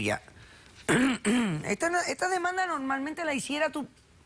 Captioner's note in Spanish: Carraspea